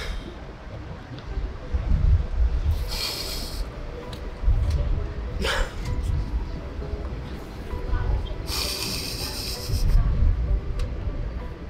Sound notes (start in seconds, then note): 0.6 soft piano music; 5.4 weeps